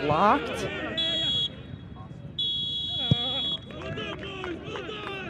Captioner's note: whistle blows